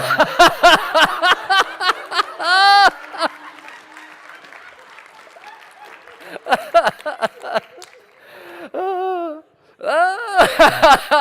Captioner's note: laughter